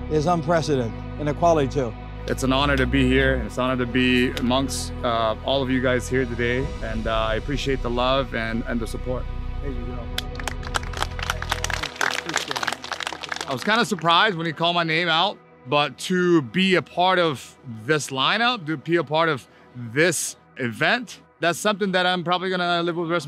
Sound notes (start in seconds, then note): 10.1 crowd applauds